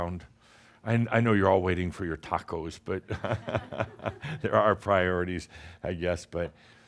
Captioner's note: chuckles